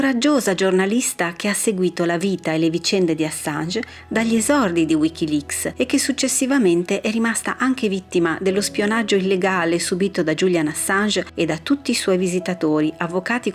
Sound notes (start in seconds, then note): none